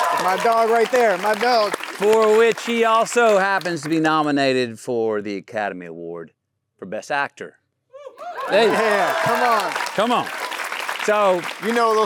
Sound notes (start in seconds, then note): 0.0 audience cheering; 8.2 audience applauding